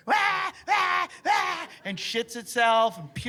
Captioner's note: screaming